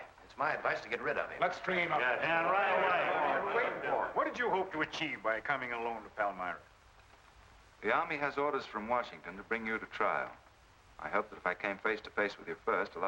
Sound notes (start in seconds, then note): 2.5 men chattering